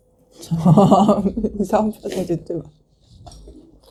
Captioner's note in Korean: 웃음소리